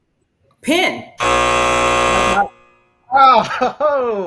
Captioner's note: buzzer sounds